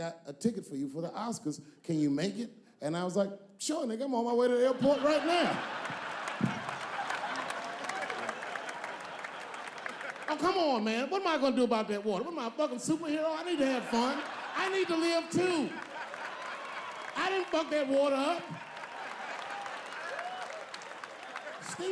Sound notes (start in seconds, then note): 4.7 audience laughing; 20.0 audience clapping